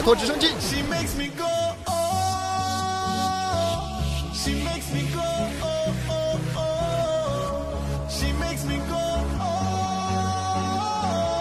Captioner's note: excited cheering